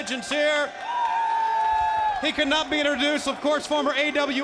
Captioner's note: applause